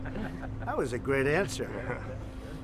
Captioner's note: laughter